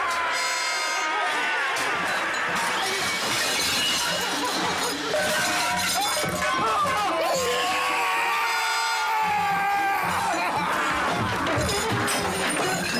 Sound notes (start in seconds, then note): 1.7 plates shattering; 6.4 Borrowbills screaming; 8.2 Walter roaring